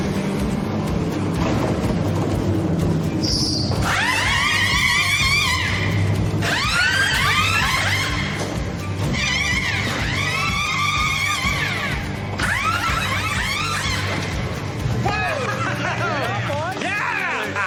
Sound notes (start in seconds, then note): 3.7 drills whirring